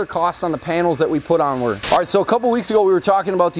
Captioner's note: static crackling